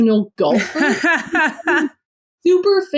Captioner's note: laughs